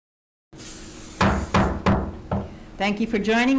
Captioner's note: gavel banging